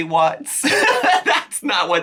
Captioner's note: laughs